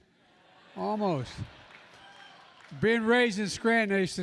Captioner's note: laughter; applause